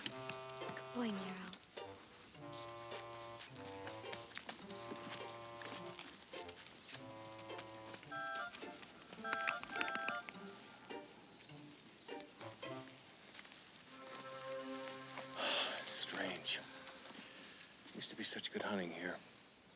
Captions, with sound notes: Good boy, Nero. (squirrels chitter) - It's strange. Used to be such good hunting here.